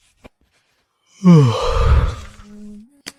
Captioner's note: sigh